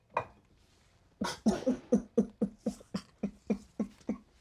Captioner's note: Tim crying